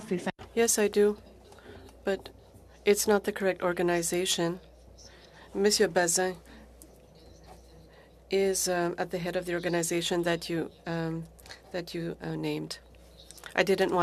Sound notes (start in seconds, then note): 5.3 speaking French